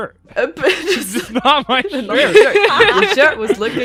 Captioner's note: laughing